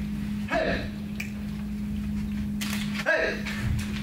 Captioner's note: Gupta snaps